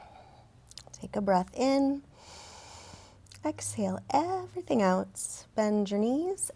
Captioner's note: inhales